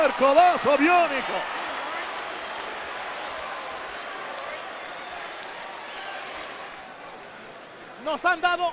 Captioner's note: applause